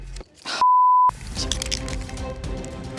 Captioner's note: beep